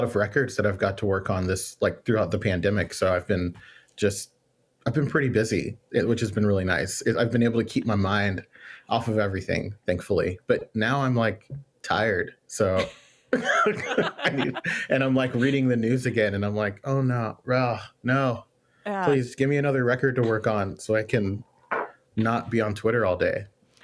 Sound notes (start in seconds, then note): 13.3 laughs